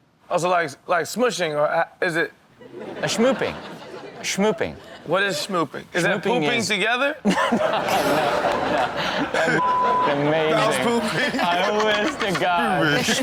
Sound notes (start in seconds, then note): 7.3 laughs; 10.5 Chanel laughs